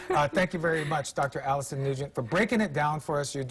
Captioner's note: laughter